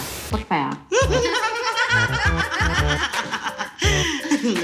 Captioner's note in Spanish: Risas